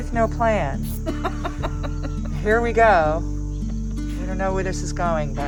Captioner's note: laughs